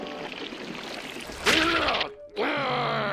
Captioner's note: growling; grunts